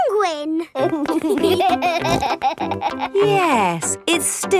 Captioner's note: laughing